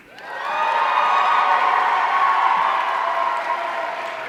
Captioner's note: audience cheering